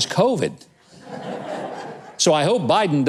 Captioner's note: audience laughing